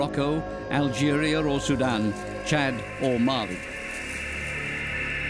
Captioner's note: locusts fluttering